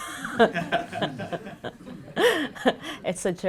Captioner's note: laughter